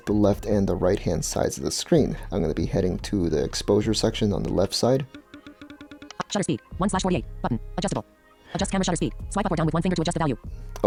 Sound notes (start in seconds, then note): 5.1 short pulsating sounds